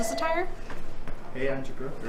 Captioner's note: phone rings